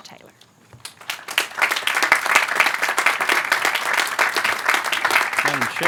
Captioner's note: applause